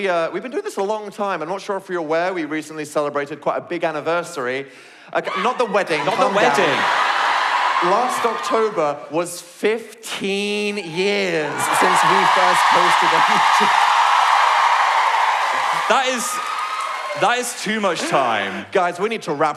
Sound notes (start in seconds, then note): 7.4 audience laugh; 14.1 cheering